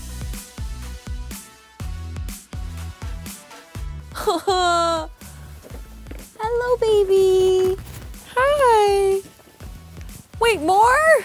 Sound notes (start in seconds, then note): 0.2 upbeat music; 4.2 crying